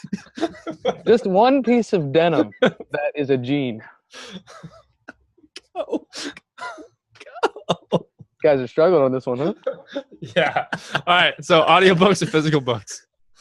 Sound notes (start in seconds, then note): 0.0 laughter; 4.7 laughing